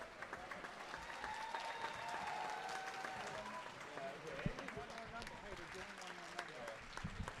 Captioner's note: audience cheering and applauding continues